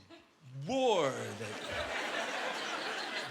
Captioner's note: laughter